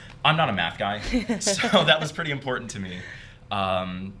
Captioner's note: laughing